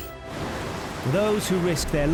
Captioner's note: gentle music; waves roaring